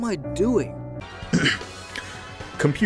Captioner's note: ahem